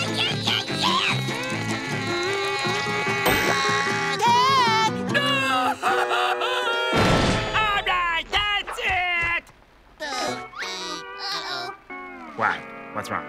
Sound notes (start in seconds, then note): 7.0 screaming